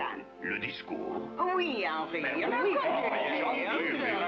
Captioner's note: speaking French; chattering In French